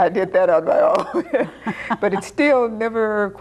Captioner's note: laughing